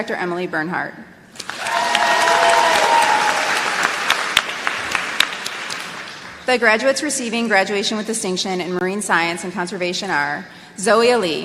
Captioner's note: applause